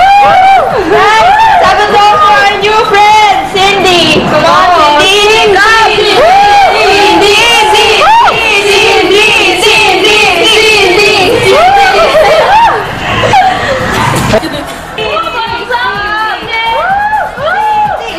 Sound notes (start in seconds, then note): 8.2 Molly's friends cheering Cindy; 18.0 they're cheering Cindy